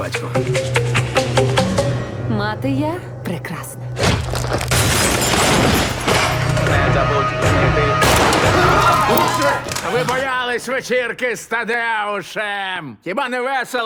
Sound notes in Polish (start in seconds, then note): 3.8 brzdęk szła; 3.8 uderzenie siekiery; 8.0 huk wystrzału